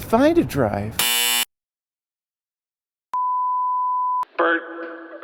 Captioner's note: error sound